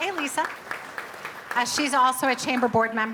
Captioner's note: audience applauding